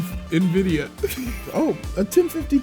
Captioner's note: laughs